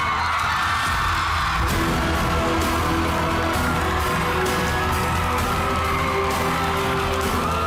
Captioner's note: crowd screaming, applauding